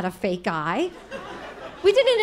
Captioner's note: audience laughing